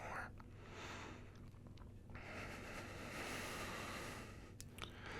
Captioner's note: inhale & exhale deeply